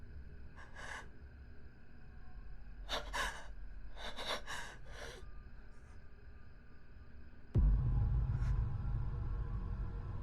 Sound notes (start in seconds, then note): 2.9 Sara gasping; 7.5 eerie music